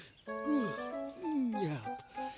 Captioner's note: sighing